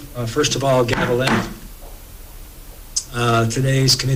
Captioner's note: gavel bangs